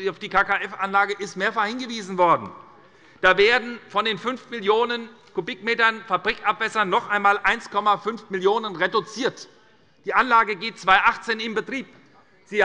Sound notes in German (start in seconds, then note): none